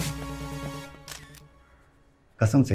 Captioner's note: Camera clicks